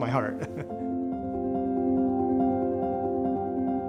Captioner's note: chuckles